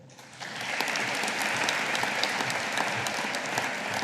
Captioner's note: audience applauding